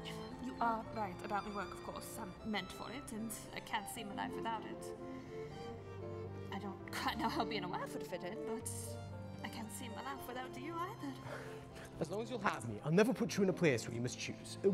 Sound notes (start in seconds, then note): none